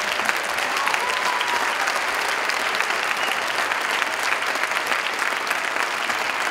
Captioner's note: Khán giả vỗ tay